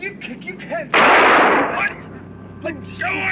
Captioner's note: gunshot